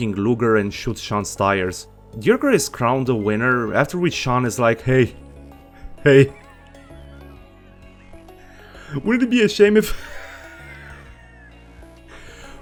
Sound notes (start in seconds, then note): 5.1 cackle; 10.3 cackle